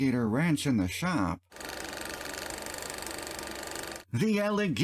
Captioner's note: projector sounds